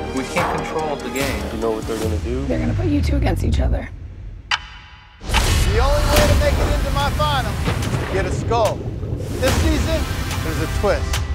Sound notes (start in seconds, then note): 4.8 metal clanks